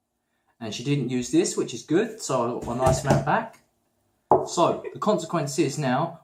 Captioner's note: thumping his open hand on the table